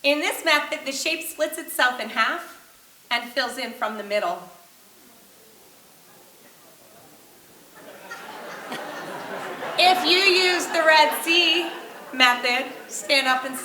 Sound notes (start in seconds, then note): 8.2 audience laughing